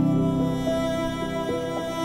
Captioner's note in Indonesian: none